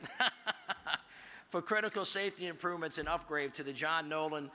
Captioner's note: laughs